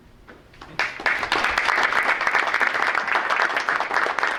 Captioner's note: group applauding